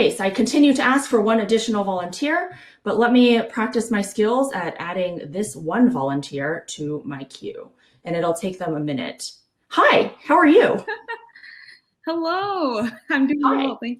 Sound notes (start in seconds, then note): 10.6 chuckling